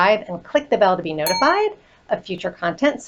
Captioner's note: bell dings